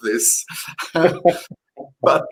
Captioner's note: chuckles